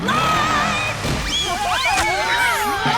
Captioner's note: screaming